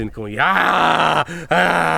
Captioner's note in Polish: krzyk